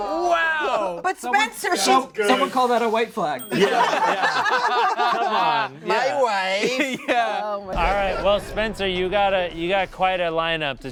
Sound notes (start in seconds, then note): 3.5 everyone laughs